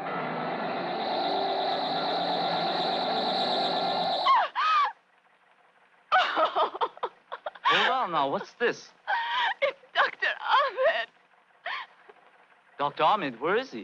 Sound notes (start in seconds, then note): 0.0 magnetic humming; 4.4 gasping; 4.4 sobbing